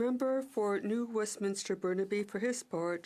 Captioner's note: speaking French